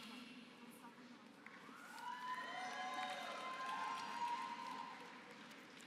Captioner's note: applause